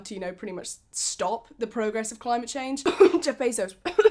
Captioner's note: cough